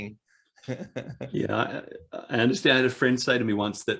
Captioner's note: both laugh